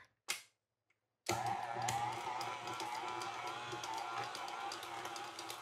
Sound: mixer whirring

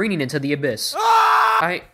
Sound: scream

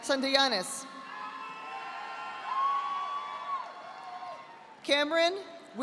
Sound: audience applauding

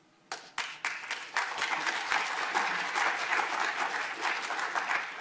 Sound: audience applauding

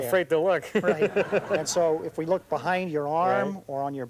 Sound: laughs

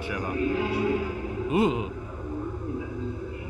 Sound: groaning

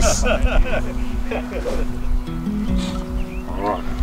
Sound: man laughing

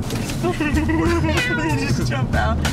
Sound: laughing

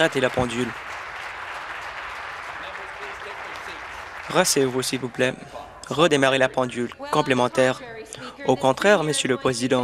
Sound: applause

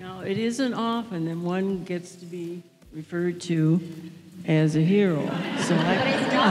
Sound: audience laugh

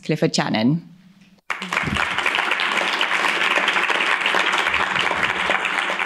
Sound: applause

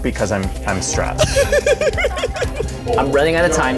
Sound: laughs

